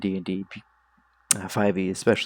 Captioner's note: annoying tongue sound